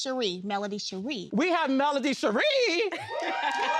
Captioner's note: audience cheering